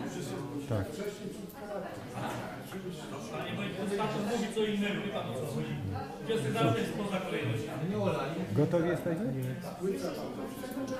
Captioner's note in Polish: głosy z sali